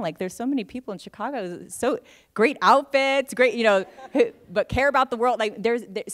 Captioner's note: laughter